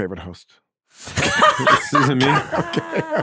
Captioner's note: laughing